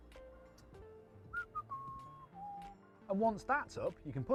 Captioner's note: whistles